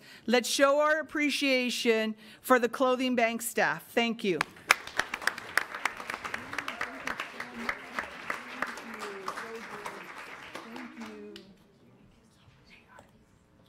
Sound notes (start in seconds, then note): 4.4 applause